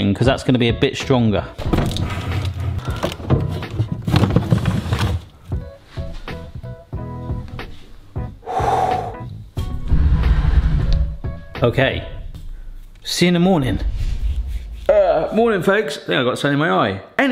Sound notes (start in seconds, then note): 5.5 easy listening music; 8.4 exhaling deeply